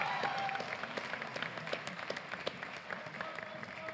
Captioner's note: applause